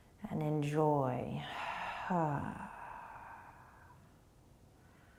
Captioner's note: sighing breath